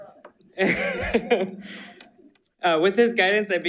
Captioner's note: chuckles